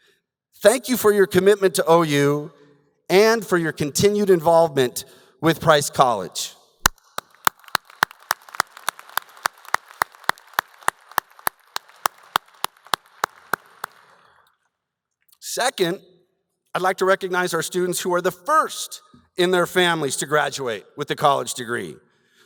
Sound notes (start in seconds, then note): 6.8 applause